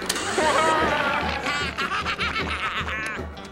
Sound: laughing

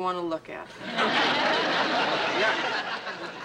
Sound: laughter

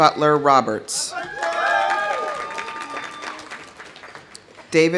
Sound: audience cheering; audience applauding

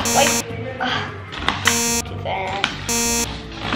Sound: beeping

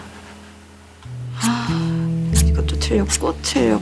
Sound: sigh

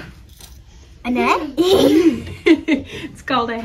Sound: laughter

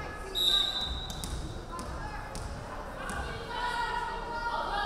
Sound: referee whistling

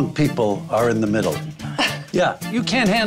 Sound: speaker 2 scoffs

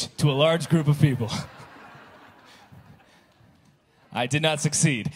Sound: congregation laughing

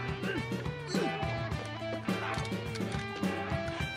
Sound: Ed grunts

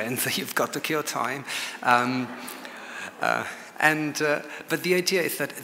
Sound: chuckles and audience laughs

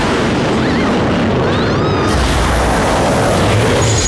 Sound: screams

